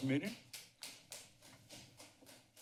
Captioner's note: applause